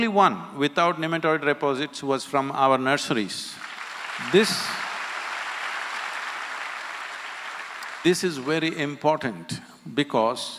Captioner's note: applause